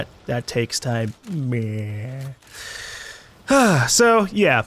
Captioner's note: exhales